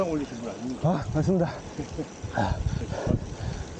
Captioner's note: out of breath